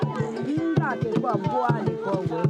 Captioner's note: indistinct chatter